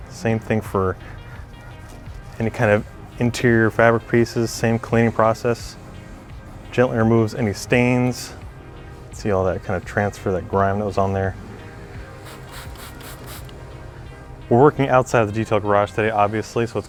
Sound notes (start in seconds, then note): 11.8 spraying